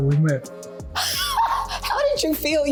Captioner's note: laughing